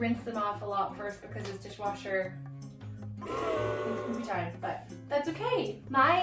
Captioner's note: blows raspberry